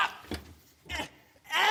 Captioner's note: grunting